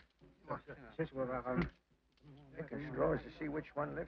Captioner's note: men speaking foreign language